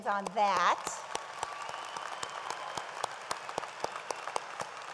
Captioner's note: audience applauds